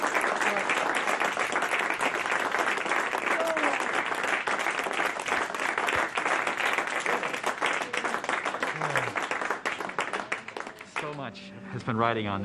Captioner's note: applause